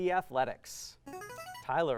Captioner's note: buzzer